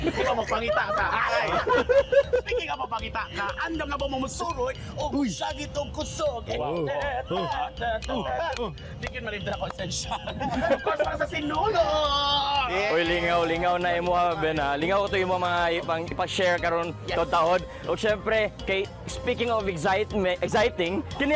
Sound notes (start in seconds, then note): 6.7 imitating street dance beats